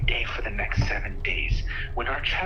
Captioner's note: something banging